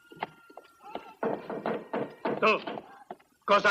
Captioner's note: knocking